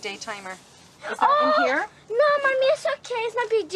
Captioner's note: cries out